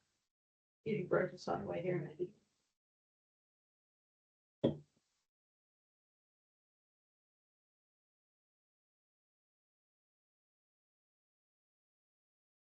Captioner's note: no audio. Meeting muted for break